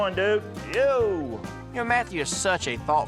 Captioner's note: high-five clap